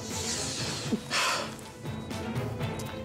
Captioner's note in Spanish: exhala